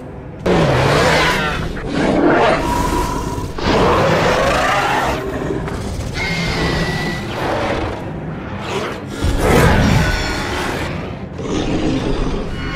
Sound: screeching and roaring sounds

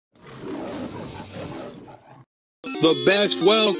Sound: roar!

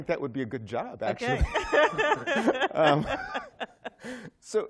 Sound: laughter

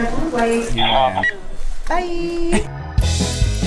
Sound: scanner beeping; bouncy music

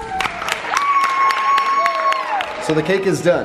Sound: group cheering and applauding

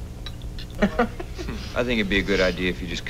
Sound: laughter

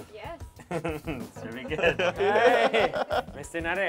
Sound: laughs

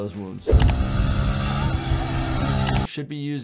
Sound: motorcycle engine whirs

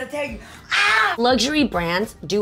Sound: laughing; screaming

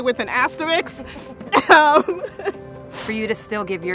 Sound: laughing

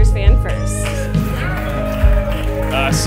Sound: clapping

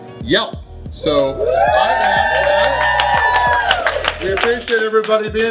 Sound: clapping

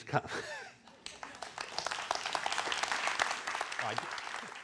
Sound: applause

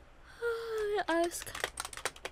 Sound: yawning

